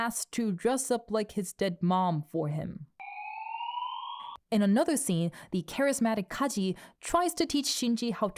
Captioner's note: wee-whoo wee whoo